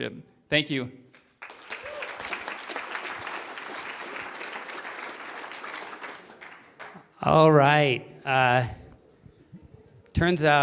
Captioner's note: applause